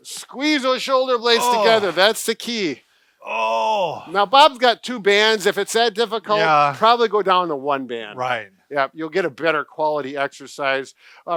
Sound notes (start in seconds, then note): 3.2 groaning